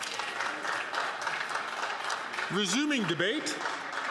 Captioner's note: some Applause